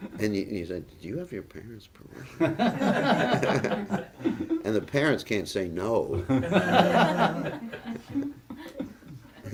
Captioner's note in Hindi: हँसी